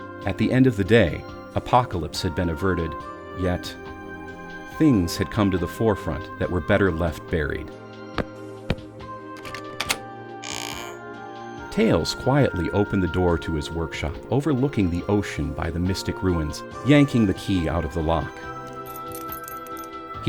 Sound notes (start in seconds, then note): 8.6 steps; 9.4 knob softly turning; 10.4 door softly opening; 18.6 keys jingle